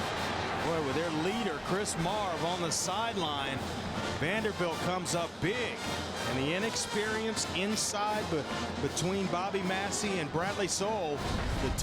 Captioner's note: crowd noise